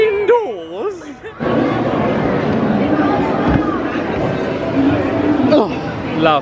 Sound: lively background chatter

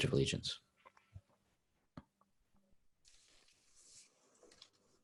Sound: silence

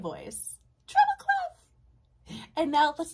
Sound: uses high voice

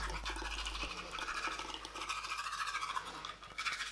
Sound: tooth brushy noises

